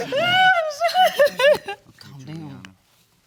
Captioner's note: crying